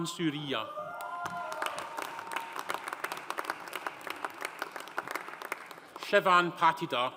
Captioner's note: audience cheering; audience applauding